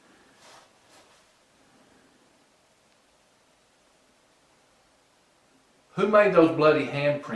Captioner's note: silence